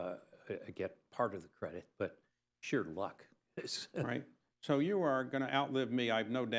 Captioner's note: laughs